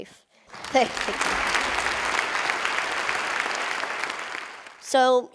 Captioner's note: Khán giả vỗ tay